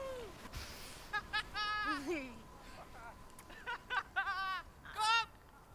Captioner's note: laughing victoriously